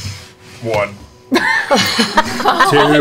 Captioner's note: laughter